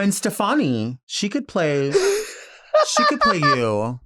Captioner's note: Nymphia laughing